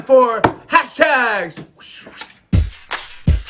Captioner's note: hisses